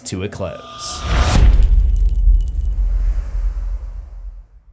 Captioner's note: impact